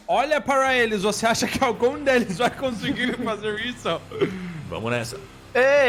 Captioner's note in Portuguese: riso